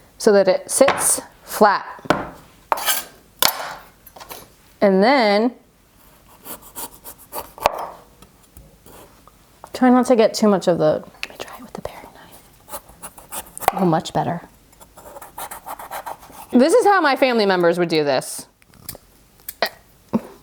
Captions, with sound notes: So that it sits flat. And then... Try not to get too much of the... (whispers) Gonna try it with the paring knife. Much better. This is how my family members would do this.